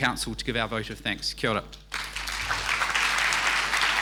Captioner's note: speaking in foreign language; crowd applauding